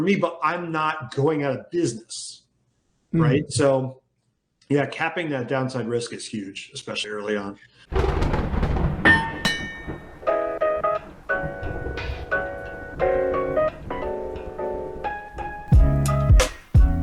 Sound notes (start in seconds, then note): 7.8 thunder rumbling; 8.0 metal clanking; 9.8 vintage jazz music